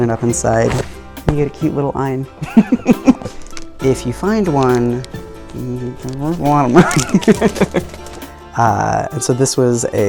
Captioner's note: laughing